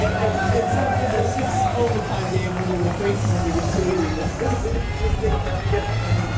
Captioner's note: woman speaking away from mic